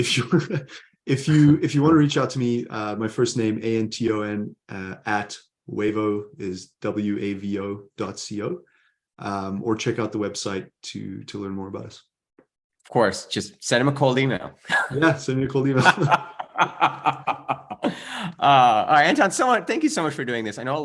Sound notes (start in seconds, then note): 14.2 chuckles; 15.6 chuckles; 15.7 laughs